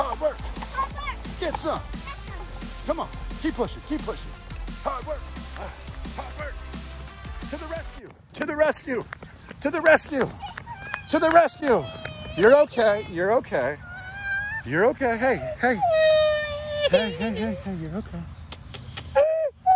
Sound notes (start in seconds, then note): 11.4 crying; 15.4 crying